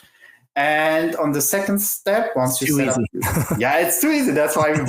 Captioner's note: laughs